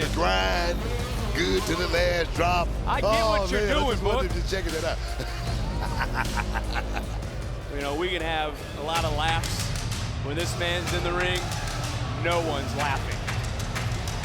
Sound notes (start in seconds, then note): 4.8 Booker T laughing